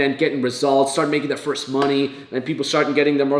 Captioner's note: claps hands